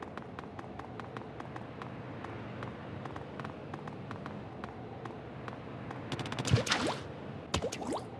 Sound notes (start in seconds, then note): 6.1 sounds of ink splatter